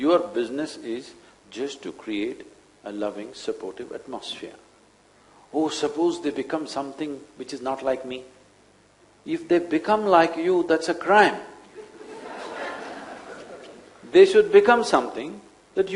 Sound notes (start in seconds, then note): 11.7 laughter